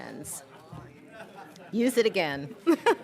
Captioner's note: audience chattering indistinctly; laughs